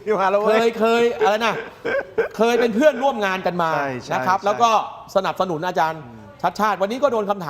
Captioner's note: laughs